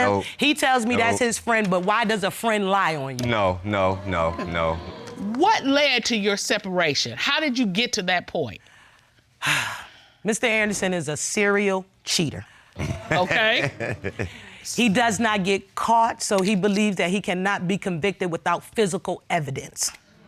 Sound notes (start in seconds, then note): 9.3 sighs; 12.8 laughs